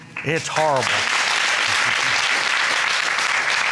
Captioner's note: applauding